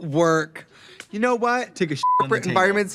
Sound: beep

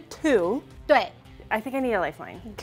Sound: speaking in mandarin

